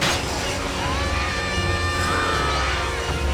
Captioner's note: screaming